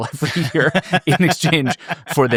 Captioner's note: both laughing